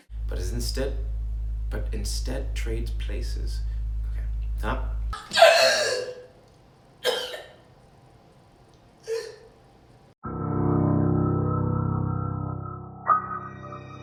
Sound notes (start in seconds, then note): 5.1 Wilhelmina gasps and coughs; 10.3 deep mysterious music